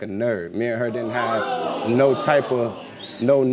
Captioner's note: audience exclaiming